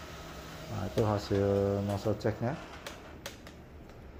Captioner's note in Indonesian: suara mesin printer